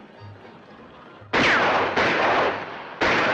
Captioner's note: firing